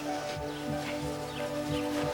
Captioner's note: sniffing